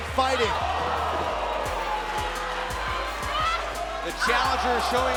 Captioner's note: crowd cheering